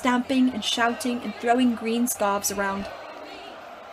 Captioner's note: slytherin chants continue